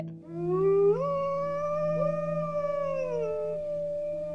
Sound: wolves howl

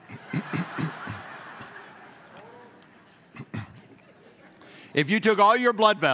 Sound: laughing

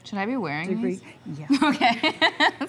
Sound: laughter

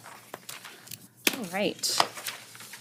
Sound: papers shuffling

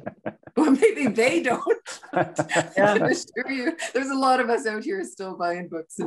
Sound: laughing

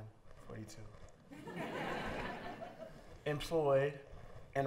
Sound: laughter

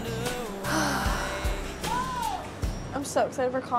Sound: girl sighing

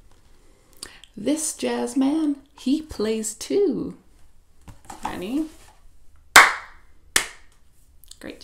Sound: claps

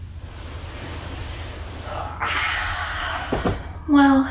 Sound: makes stretching noises

